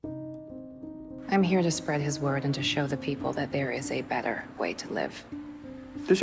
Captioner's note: voiceover